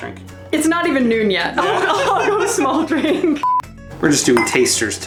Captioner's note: laugher; laughter